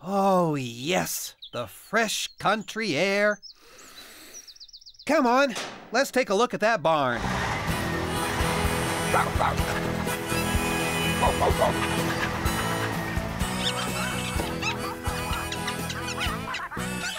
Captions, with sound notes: OH, YES, THE FRESH COUNTRY AIR. ( Deep Inhale ) COME ON; LET'S TAKE A LOOK AT THAT BARN. ( Barking ) ( Squirrels Chattering )